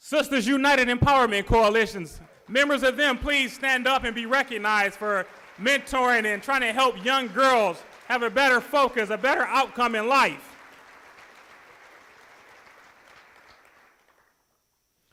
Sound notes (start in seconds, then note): 11.5 applause